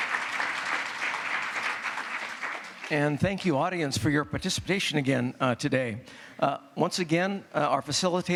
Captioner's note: applause